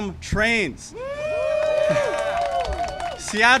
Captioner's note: applause and cheering